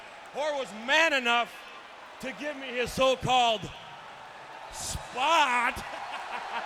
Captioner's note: laughs